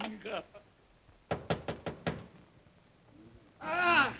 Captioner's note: knocking on door